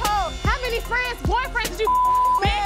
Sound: beep

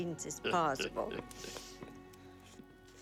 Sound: chuckling

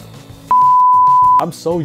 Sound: beeps

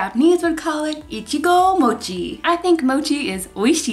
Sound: speaking in foreign language

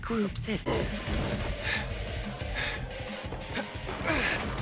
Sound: Aizawa grunts and breathes heavy

